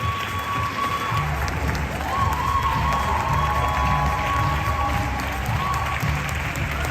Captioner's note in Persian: صدای تشویق